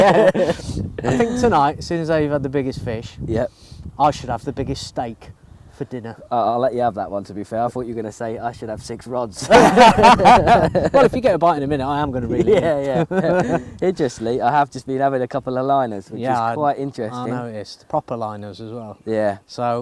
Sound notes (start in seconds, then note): 9.4 laughter